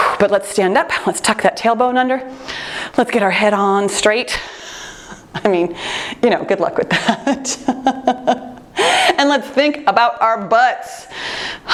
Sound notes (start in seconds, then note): 6.9 laughter